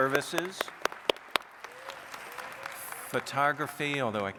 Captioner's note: audience applauds